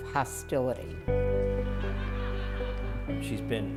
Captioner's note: laughter